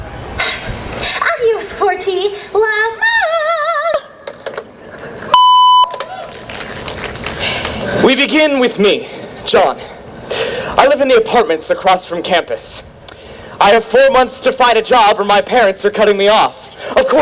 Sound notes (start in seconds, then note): 5.3 beep